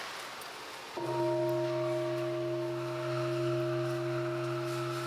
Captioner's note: bell ringing